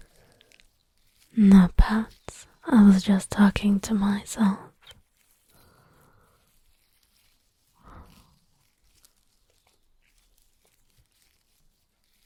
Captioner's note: sotto voce, benevolent; regular voice